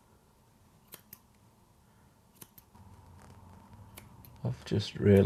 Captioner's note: scissors snipping